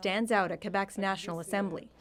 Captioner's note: speaking French